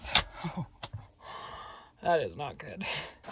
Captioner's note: chuckles